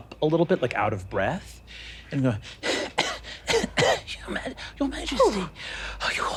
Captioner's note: coughing